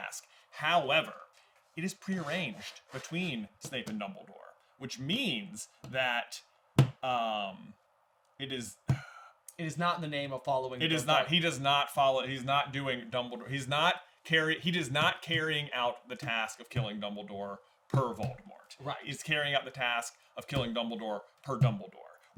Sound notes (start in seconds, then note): 8.9 sigh